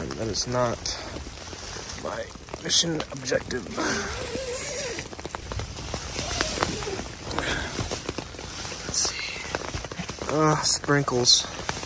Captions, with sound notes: And that is not my mission objective. (zipper zipping) Let's see. Sprinkles,